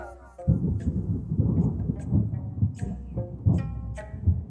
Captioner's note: thunder clapping